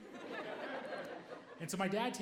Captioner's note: audience laughing